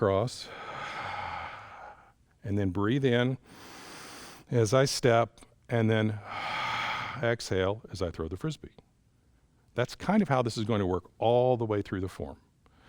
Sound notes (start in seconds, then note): 0.4 exhales; 3.4 inhales; 6.2 exhales